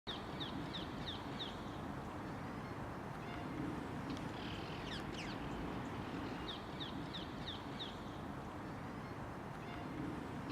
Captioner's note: birds tweeting